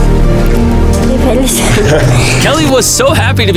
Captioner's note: Spanish